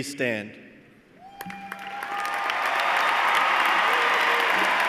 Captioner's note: cheers and applause